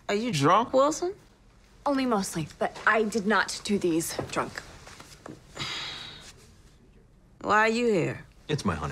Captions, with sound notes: are you drunk, Wilson? only mostly, but i did not do these drunk. *sigh* why are you here?